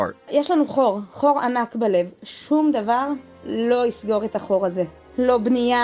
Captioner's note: speaking in Hebrew